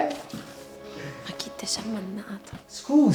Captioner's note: whispering